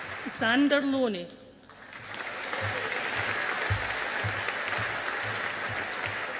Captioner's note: audience applauding